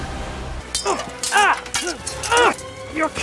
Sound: sword clashing

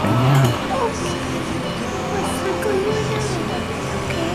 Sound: whispering

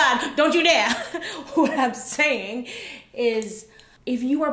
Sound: laughs

